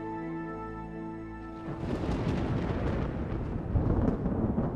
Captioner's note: thunder rumbling